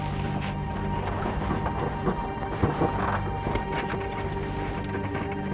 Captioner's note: vehicle rattling